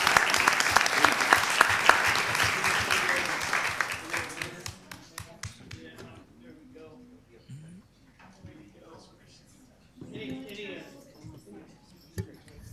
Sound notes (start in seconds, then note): 4.6 group chatter